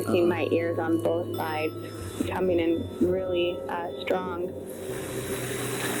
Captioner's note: recording playback